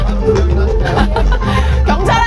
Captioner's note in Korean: 웃음